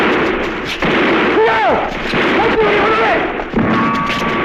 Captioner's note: non-english speech